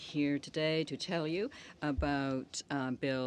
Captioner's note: speaking French